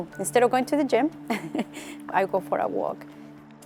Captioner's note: chuckles